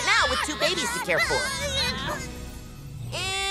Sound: crying

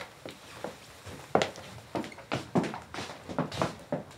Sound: footsteps clatter

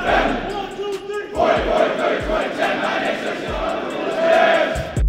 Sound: chanting

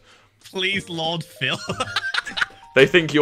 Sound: laughs

